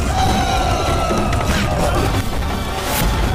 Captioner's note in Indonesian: berteriak